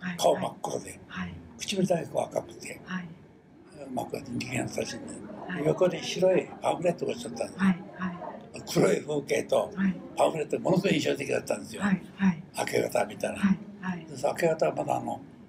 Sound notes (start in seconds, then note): 0.0 foreign language